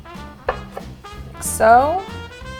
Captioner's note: knife taps